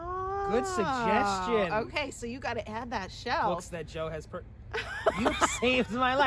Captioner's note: laughing